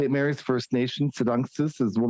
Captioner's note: speaking Indigenous Language